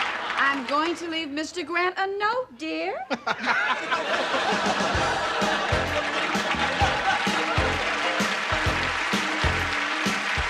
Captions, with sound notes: I'M GOING TO LEAVE MR. GRANT A NOTE, DEAR. [laughing]